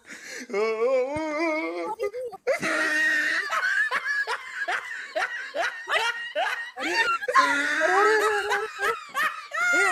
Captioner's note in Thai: เสียงหัวเราะ